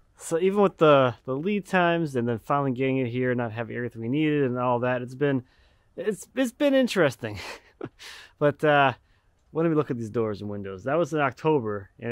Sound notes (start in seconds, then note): 7.3 laughing